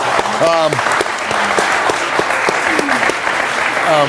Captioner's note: audience clapping